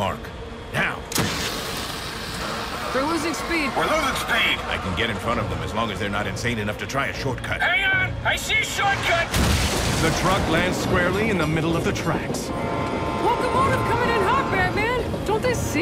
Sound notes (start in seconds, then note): 1.0 whoosh; 9.2 crash; 12.3 train horn blows